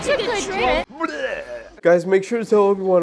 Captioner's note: vomit noises